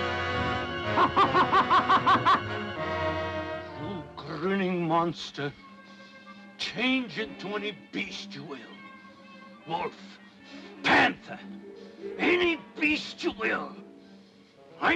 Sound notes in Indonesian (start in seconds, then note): 0.9 Tertawa